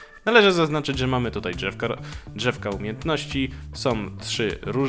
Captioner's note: quick breath